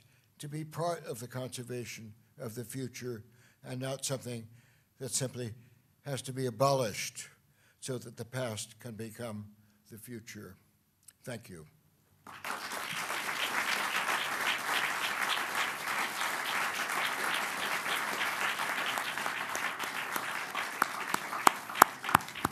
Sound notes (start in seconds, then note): 12.2 applause